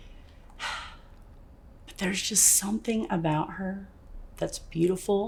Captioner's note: sighs